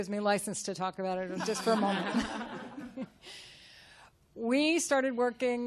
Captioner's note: chuckles